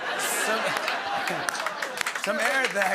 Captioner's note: chuckles